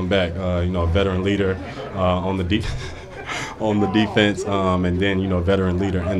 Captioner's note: laughs